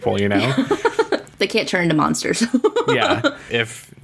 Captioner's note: laughs